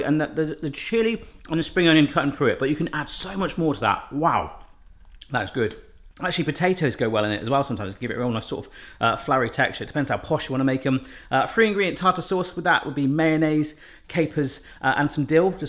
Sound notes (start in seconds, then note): none